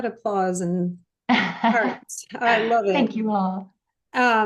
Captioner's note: laughs